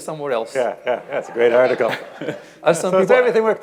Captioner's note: laughs